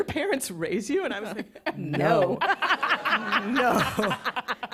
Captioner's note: laughter